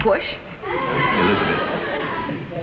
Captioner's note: audience laughs